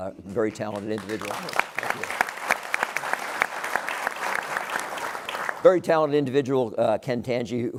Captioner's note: applause